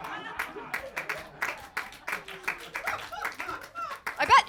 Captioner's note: crowd laughing; crowd clapping